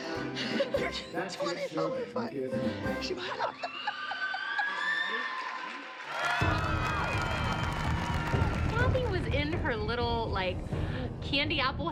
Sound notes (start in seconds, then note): 2.9 laughs; 5.0 applause